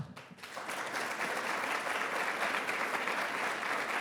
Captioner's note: audience applauding